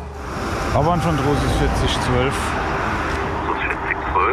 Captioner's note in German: Verkehrslärm